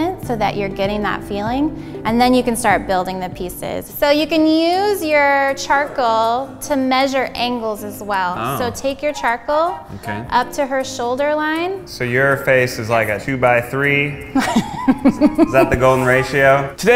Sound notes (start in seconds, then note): 14.3 laughs